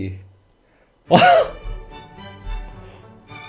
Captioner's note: laughter